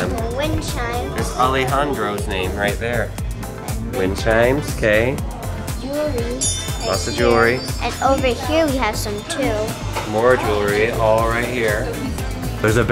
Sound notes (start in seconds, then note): 6.2 bells ringing